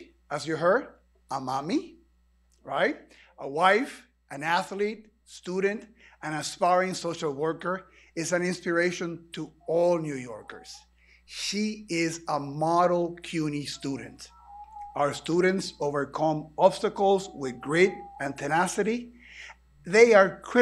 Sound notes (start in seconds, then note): none